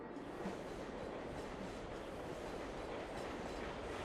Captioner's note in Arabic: هدير مترو الأنفاق